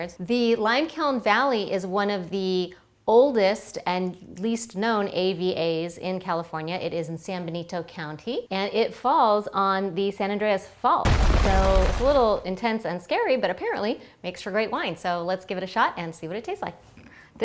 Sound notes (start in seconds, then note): 11.1 rumble